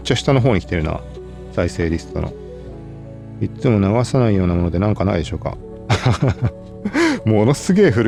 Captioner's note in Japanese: 笑い